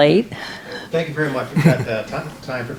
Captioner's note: voiceover